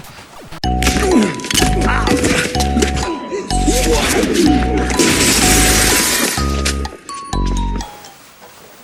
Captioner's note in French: Bruit de bagarre